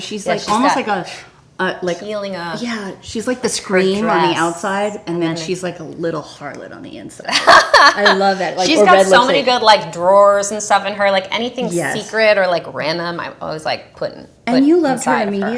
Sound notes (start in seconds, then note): 7.3 Kirsten laughs